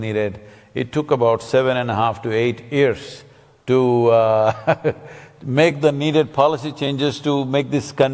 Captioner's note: laughs